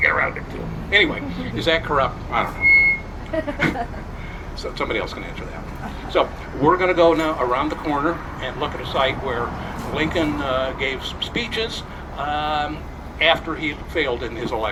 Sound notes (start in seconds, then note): 3.0 crowd chuckles